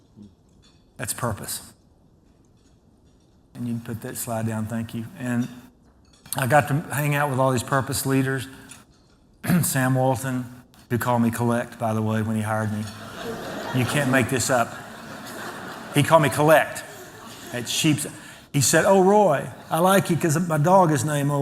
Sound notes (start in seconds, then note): 12.8 laughter